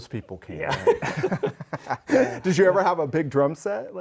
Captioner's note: both laughing